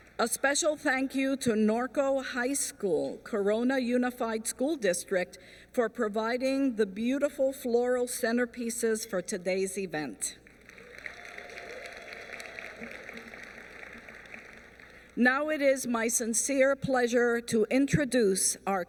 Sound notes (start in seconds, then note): 10.4 applause